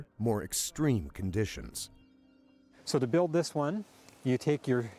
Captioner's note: voiceover